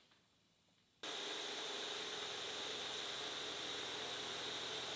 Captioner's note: machine whirs